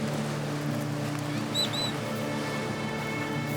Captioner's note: parrot whistles